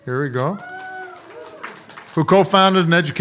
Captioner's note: audience applauds